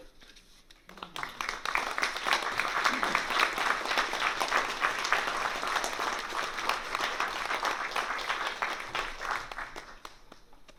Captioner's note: applause